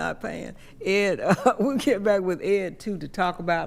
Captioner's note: chuckles